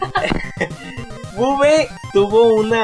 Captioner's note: chuckles